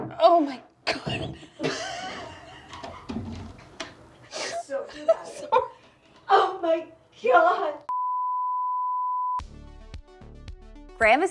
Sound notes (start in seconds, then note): 1.0 laughs; 8.0 loud beeping; 9.4 bright upbeat music